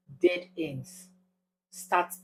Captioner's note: paause